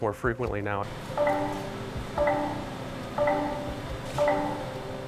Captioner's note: machine beeping